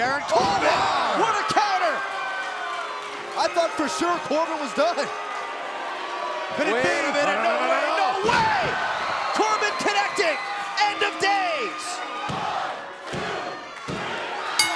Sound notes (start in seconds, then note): 5.7 crowd cheering; 14.6 bell ringing